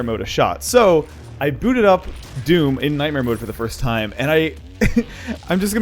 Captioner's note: chuckle